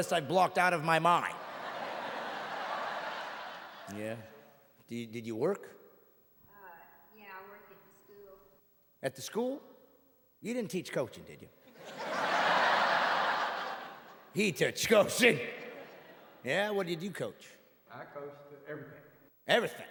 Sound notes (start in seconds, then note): 15.1 audience laughing